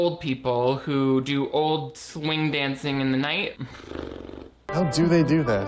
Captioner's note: sighs